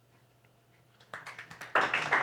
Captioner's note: audience applauds